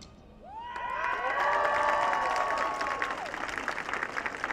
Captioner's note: audience cheering